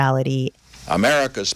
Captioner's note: soundbite of archived recording